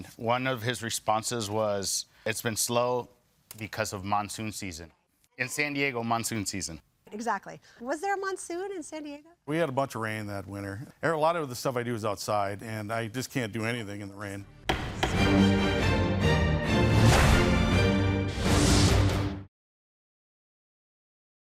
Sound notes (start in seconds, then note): 14.4 courageous music; 14.6 gavel thudding